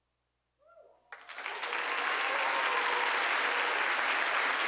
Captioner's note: audience applauding